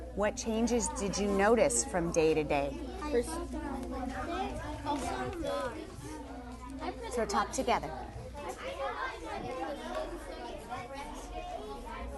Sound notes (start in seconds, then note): 3.2 student Discussing; 8.2 student Discussing